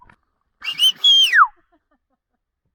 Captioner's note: whistle whistle Whistle; swooning Laughter